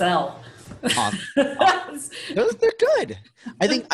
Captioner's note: laughs